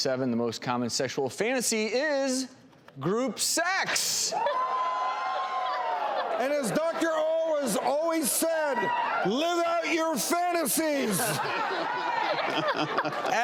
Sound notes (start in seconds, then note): 4.6 audience cheers; 11.7 audience laughs